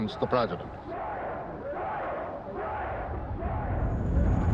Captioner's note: chanting